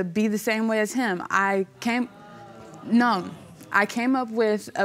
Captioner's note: audience murmuring